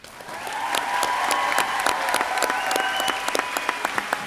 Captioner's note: crowd cheering